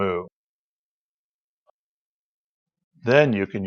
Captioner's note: silence